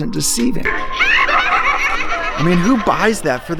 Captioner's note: maniacal laughing